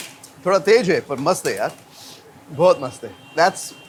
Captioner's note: speaking in Hindi